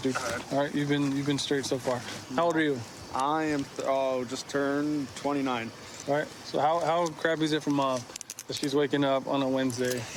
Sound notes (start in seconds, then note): none